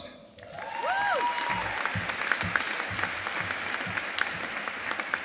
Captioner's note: audience applauding